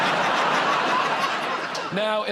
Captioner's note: laughter